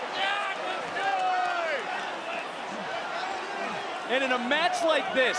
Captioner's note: yelling